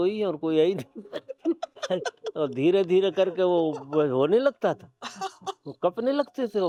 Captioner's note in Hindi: हंसी